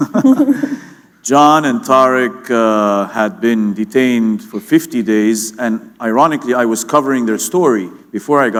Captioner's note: chuckle